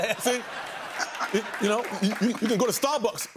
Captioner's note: laughter and applause